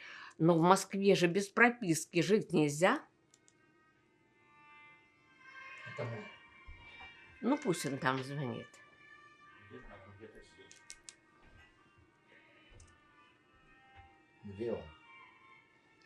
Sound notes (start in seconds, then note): 3.1 phone ring; 10.9 phone ring